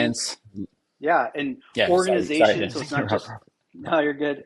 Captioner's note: laughs